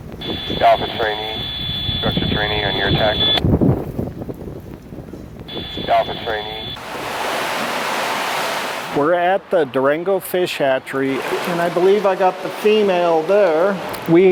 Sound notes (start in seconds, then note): 0.3 radio traffic; 4.2 wind blowing - fire crackling